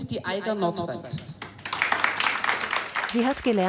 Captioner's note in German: Applaus